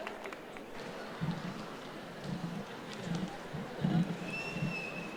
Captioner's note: applause